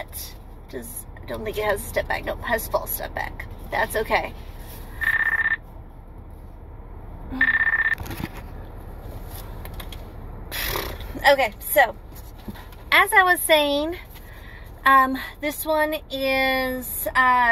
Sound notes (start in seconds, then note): 5.0 phone ring; 7.4 phone ring; 10.6 lip raspberries